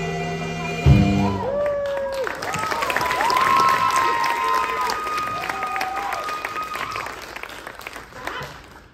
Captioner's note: applause